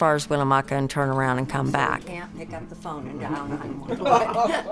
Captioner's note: chatting; laughing